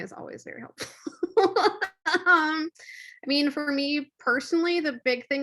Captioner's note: laughs